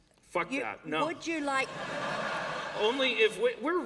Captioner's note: laughter